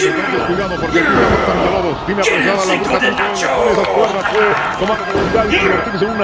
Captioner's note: speaking in foreign language